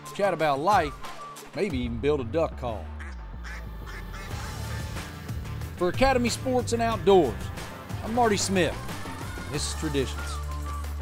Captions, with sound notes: chat about life; maybe even build a duck call. (duck quack) For academy sports and outdoors, I'm Marty Smith. This is traditions.